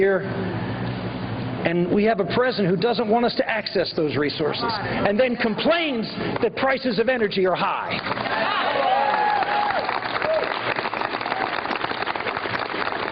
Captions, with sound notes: TO ACCESS THOSE RESOURCES, AND 115 00:04:19,000 --> 00:04:18,999 ENERGY ARE HIGH. 116 00:04:19,000 --> 00:04:18,999 THEN COMPLAINS THE PRICES OF [APPLAUSE] IF YOU LOOK AT THE RECORD OF